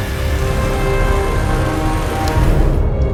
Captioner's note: ominous orchestral music; fleshy squishing